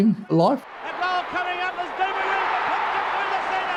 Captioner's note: crowd cheers